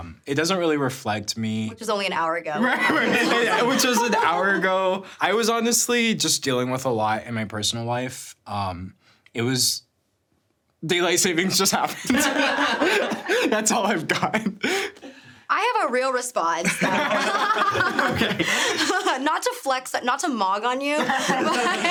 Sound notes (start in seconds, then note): 2.6 everyone laughing; 11.9 laughing; 16.6 everyone laughing